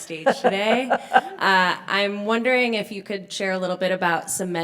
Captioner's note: laugh